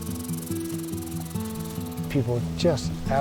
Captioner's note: squirrel chittering